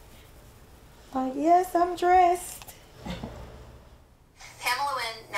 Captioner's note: chuckles